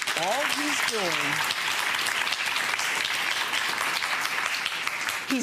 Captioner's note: audience applauding